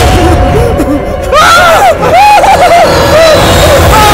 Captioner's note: Screaming